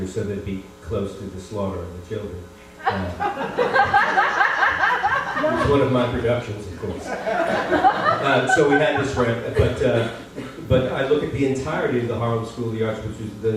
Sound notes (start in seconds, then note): 2.8 laughter